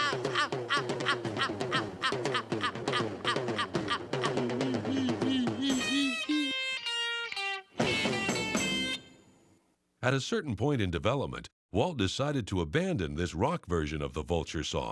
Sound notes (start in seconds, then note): 3.8 chuckling